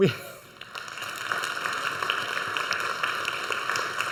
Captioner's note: audience applauds